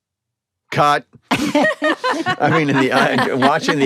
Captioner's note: all laugh